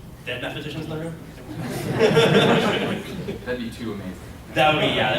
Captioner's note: laughter